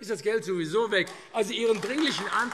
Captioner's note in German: Beifall AfD